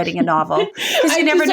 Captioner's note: laughs